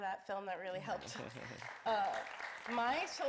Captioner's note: audience applauding